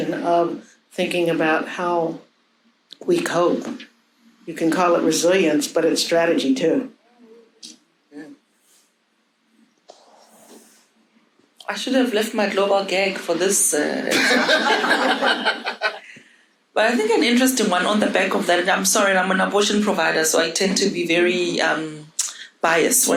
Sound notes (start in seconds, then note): 14.1 audience laughing